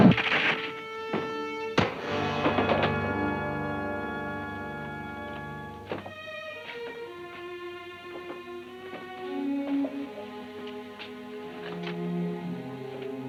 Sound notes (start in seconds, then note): 1.8 man thuds; 6.7 soft music